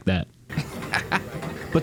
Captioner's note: laughs